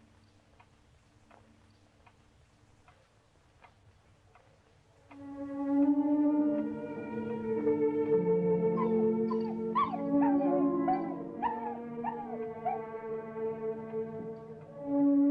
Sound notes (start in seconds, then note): 5.3 dramatic orchestral music; 8.7 dog whining